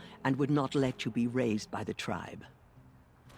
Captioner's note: none